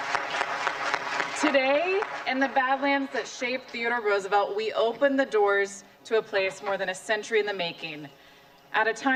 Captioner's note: applause